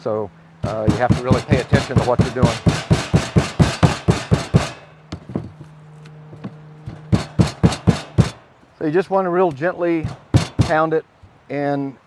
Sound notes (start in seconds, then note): 3.6 pounding